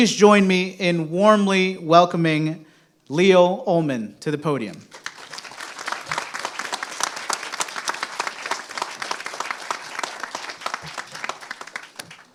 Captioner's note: applause